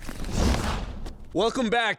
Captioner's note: whoosh